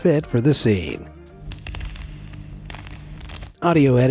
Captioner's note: herb crackles